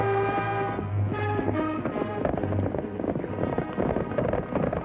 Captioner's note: horses galloping